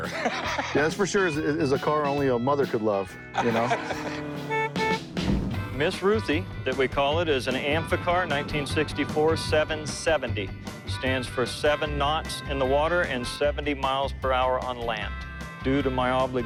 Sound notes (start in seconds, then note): 3.2 horn beeping; 3.3 laughs